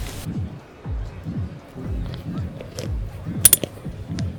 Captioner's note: water splashing